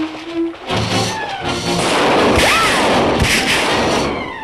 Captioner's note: tense music; gunshots